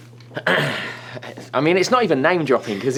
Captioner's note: coughs